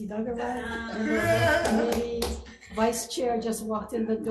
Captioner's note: laughter and clapping